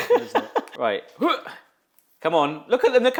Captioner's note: host laughs; grunts